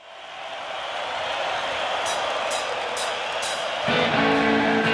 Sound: crowd cheering; slow drumbeat; rhythmic rock music

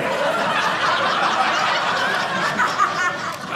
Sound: audience laughing

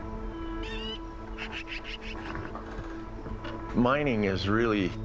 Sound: birds calling

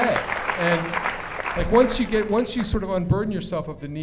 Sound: applause

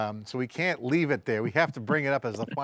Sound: all chuckle

